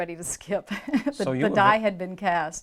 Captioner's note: chuckles